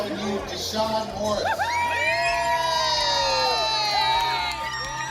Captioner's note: audience cheers